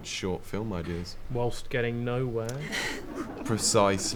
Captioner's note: audience chuckles